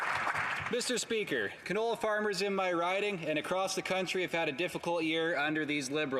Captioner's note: some Applause